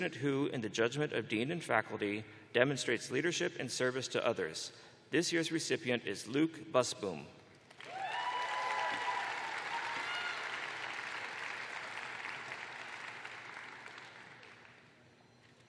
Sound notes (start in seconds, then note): 4.1 cheers and applause